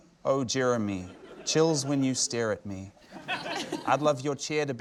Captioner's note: laughter